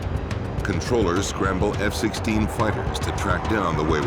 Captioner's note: voiceover